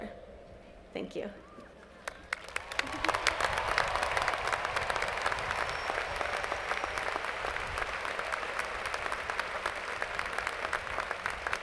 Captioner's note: applause